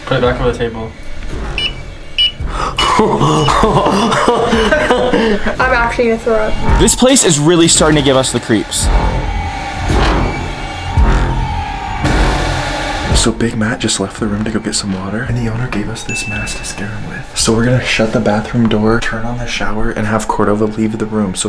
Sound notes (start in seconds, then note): 1.4 sensor beeping; 2.7 laughing